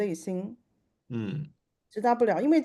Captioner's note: nonverbal grunt as interjection